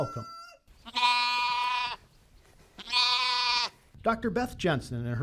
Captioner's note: lamb bleating